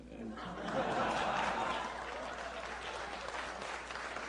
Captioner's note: laughter, applause